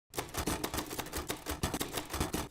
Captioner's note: typing